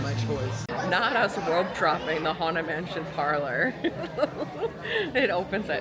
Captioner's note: giggles